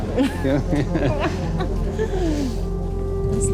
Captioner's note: both laughing